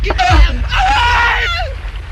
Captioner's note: screams